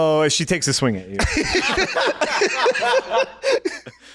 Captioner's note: laughing